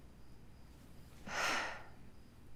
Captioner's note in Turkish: Nefes sesi